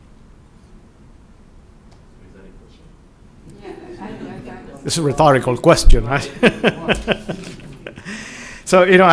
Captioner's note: laughter